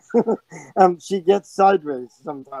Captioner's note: person laughing